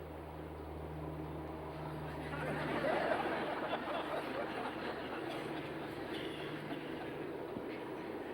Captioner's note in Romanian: zgomot de tren, râsete